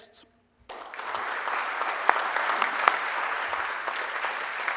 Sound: audience applauding

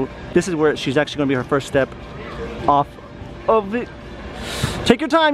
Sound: gasp

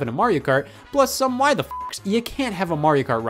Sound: beep

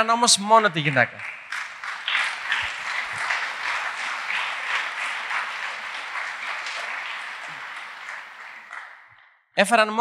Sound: applause

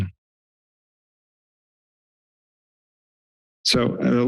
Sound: silence

